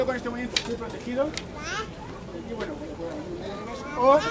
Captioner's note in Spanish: habla de espaldas